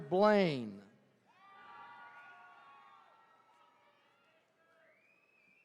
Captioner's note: attendees cheering